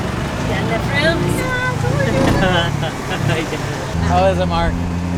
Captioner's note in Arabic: ضحك